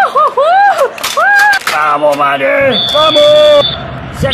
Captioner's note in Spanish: Hinchada celebra y los jugadores gritan